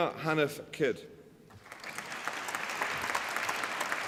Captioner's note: applause